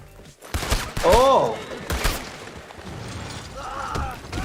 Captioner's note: gunshots cracking